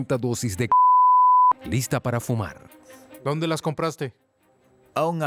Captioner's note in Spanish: bip